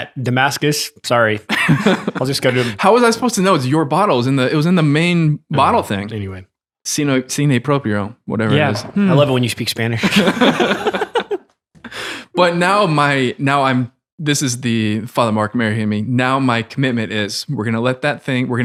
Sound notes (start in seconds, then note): 7.1 speaking Spanish; 10.0 all laugh